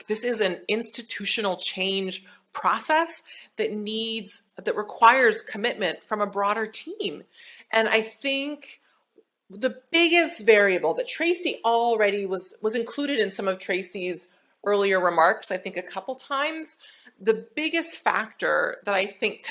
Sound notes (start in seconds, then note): none